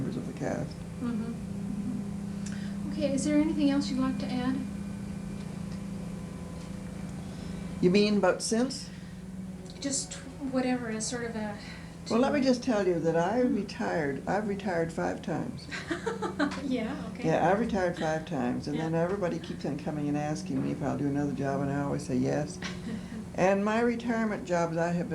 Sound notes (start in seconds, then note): 15.7 laughter